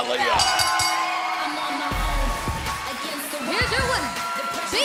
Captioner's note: bell ringing